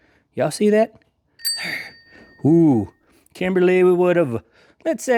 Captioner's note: bell Ringing